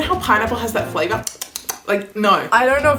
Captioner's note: smacking lips